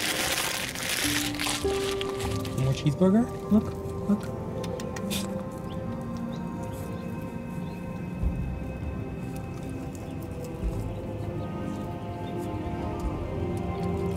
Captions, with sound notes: [Rustling] More cheeseburger? Look, look. [Tongue clicks]